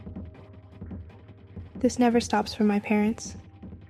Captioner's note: none